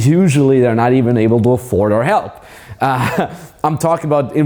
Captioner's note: laughs